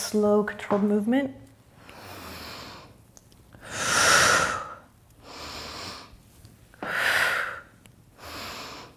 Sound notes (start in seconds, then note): 3.3 breathing